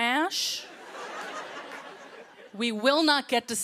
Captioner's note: laughter